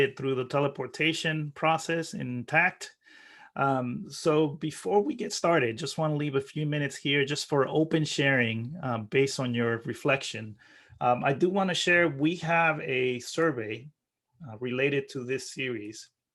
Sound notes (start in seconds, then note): none